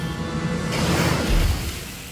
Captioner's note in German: Phasenpistole feuert